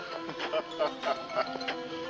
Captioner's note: laughing